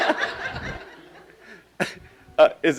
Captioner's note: laughing